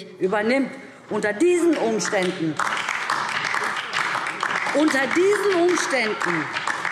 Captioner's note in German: Beifall DIE LINKE